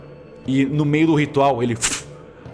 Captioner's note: fush